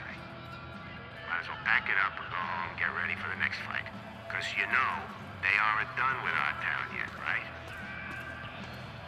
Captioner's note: on the radio